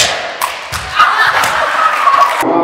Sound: laughing

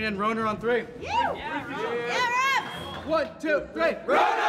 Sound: cheering

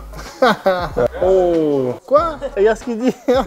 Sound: laughs

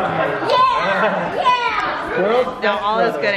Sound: laughing

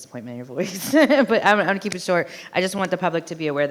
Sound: chuckles

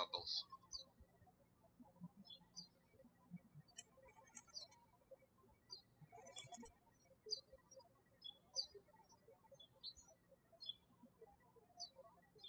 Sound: birds chirping

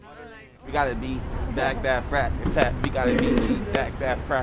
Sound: chanting

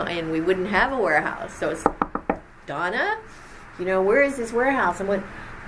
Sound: knocks on table four times

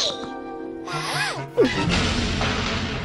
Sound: babbles

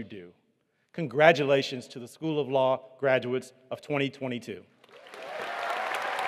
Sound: applause

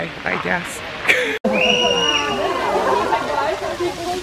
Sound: kids scream

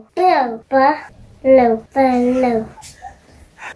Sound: giggles

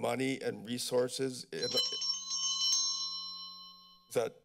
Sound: bell ringing

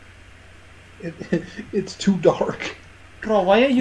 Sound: laughing

